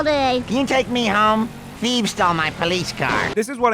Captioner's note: distant bang